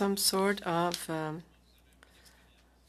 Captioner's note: speaking French